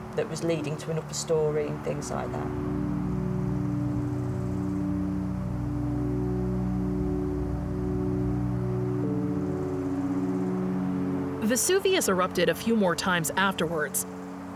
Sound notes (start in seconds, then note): 3.6 gentle music continues; 3.6 wind whooshing